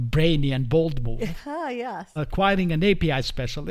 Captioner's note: laughs